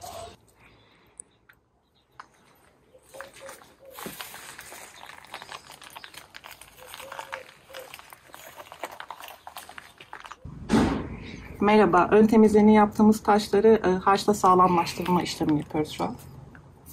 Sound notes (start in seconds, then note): 2.2 footsteps crunching on stones; 11.1 Turkish